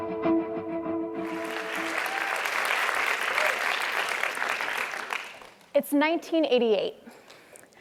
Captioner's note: applause